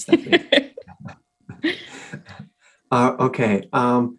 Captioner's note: both laughing